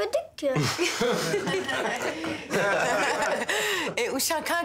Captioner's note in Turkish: Gülüyorlar